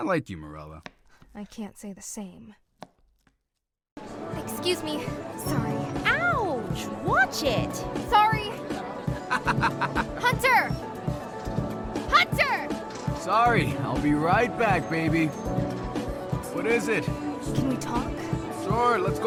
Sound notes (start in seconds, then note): 9.0 laughing